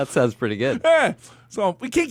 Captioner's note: laughs